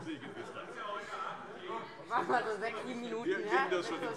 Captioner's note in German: Heiterkeit